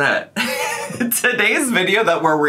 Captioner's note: laughs